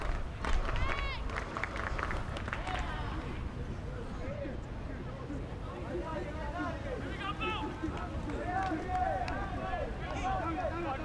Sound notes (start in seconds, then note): 1.2 fans clap rhythmically; 8.0 players yelling